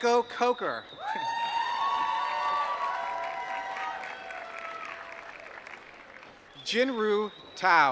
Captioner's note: applause